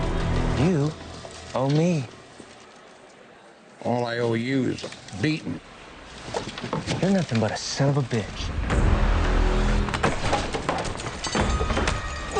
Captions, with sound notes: - You owe me. - All I owe you is a beatin’. - You’re nothin’ but a son of a bitch. (dramatic music) (table banging)